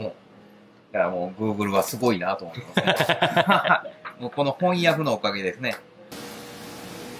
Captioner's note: laugh